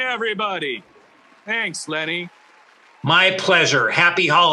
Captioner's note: audience clapping